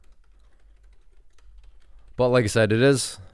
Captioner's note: keyboard clicking